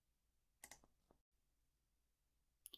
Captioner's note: click